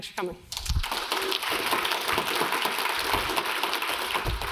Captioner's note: audience applauds